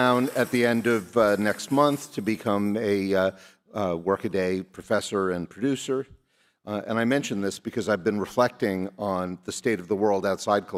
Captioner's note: cheers and applause